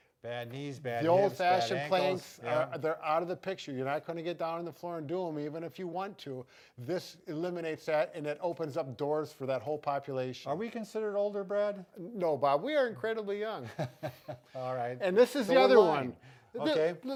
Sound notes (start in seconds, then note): 13.7 laughs loudly